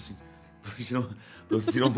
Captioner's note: giggles